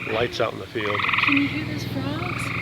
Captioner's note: frogs croak